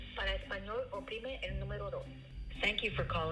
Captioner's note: not speaking English